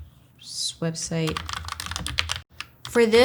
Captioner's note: keyboard clicking